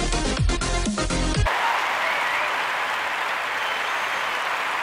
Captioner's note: applause